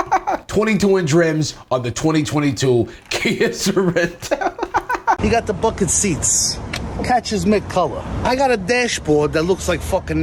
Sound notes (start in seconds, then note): 2.9 chuckles